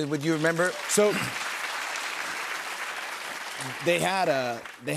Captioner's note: applause